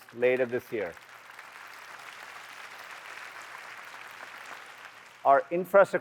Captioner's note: applause